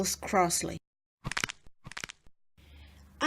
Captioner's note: knuckles cracking